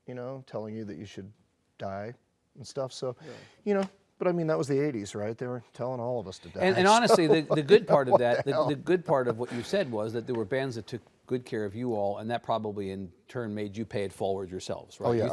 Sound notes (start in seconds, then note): 6.7 chuckles